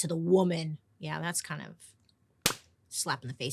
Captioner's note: hand slapping face